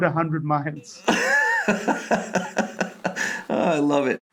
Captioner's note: laughing